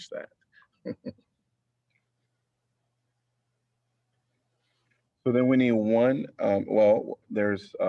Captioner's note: laughter